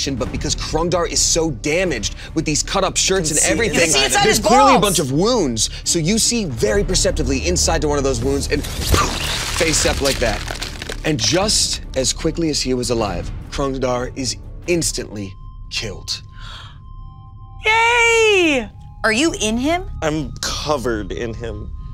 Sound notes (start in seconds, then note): 8.8 whoosh